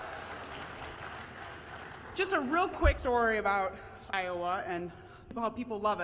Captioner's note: cheers